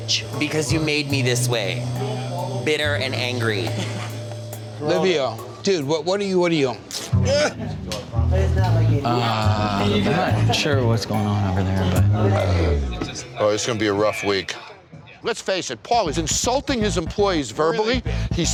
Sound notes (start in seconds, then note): 7.8 shirt ripping